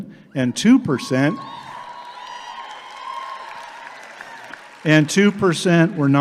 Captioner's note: audience claps and cheers